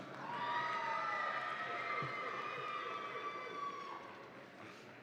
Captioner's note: audience applauds and cheers